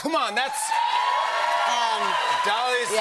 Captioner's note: cheers and applause